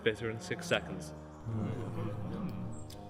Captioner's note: crowd murmur in agreement